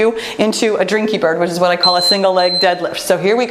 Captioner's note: timer beeps